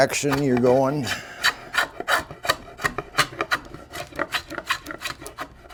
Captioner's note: scraping loudly